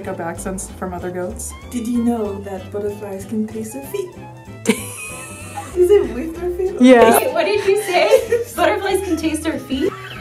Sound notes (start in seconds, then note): 4.6 laughter